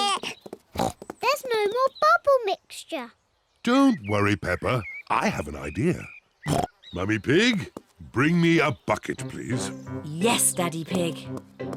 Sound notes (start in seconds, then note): 0.7 oinks; 6.4 oinks